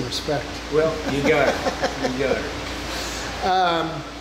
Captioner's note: laughing